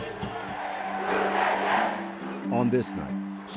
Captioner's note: crowd cheers